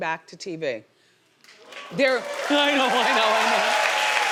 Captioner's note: audience applauding